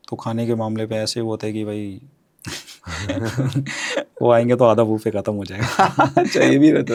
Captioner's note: laughs